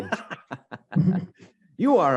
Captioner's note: laughs